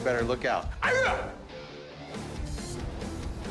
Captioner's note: yelling